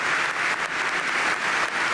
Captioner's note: applause